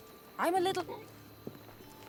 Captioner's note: burp